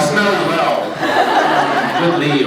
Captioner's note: laughs